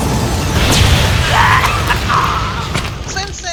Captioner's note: painful grunt